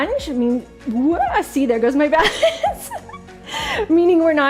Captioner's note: laughing